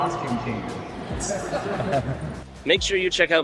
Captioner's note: laughing